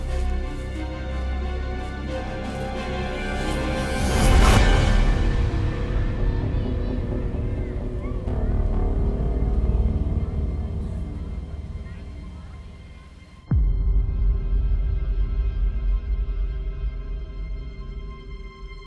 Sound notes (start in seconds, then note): 3.7 dramatic orchestral music continues; 5.5 slow dramatic music; 5.8 children chattering; 14.6 slow dramatic music continues